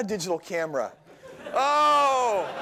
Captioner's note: laughter